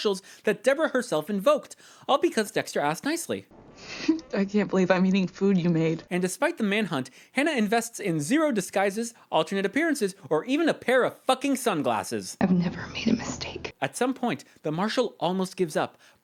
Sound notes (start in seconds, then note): 3.9 laughs